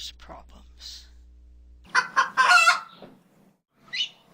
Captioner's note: rooster crowing